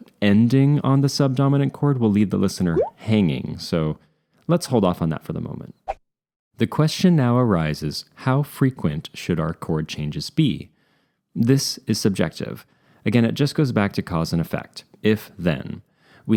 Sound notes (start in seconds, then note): 2.7 bloop; 6.1 swish